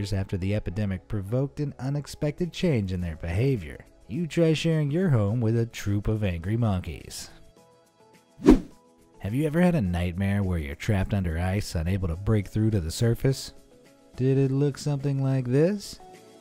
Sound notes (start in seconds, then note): 8.4 air whooshing